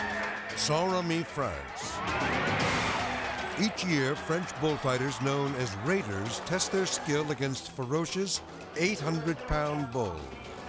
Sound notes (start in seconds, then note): 0.0 tense music; 1.8 people screaming